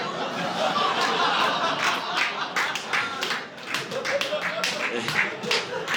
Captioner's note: audience laughing